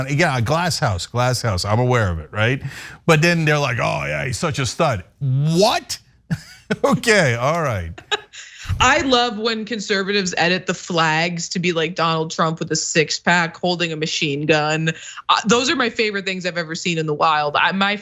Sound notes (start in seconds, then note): 6.3 laugh